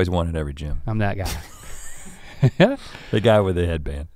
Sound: chuckles

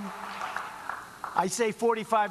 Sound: applause

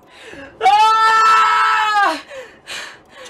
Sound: Remus screams

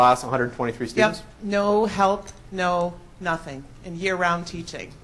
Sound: voiceover

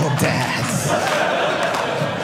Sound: audience laughing

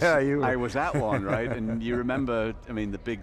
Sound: laughing

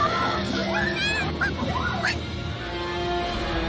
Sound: screaming; Toto whimpers

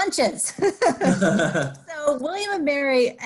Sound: laughing

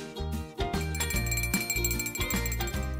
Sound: bell ringing

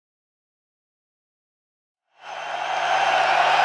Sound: audience applauding and cheering

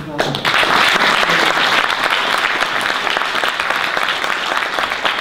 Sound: audience applause

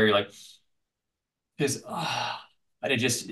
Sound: sighs

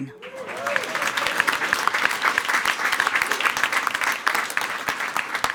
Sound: everyone applauding

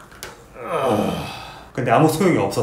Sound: groan

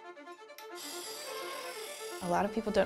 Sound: upbeat music; grinder buzzing

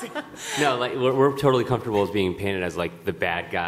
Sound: laughter

